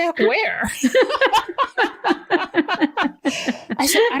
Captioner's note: laughter